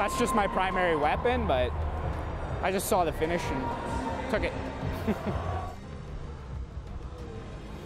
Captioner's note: chuckles